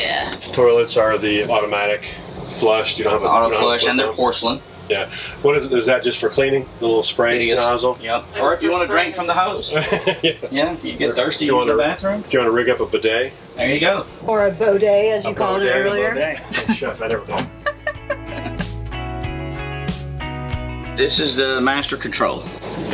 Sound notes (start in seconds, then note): 9.7 laughter; 17.5 laughter; 19.7 soft music